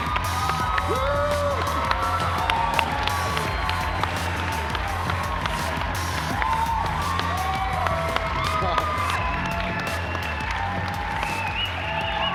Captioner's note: cheers and applause